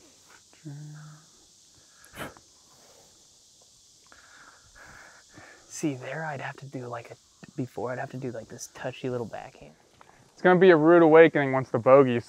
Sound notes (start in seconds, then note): none